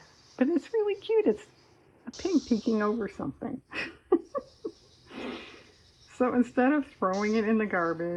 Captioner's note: laughs